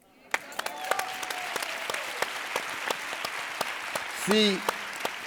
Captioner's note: audience applauding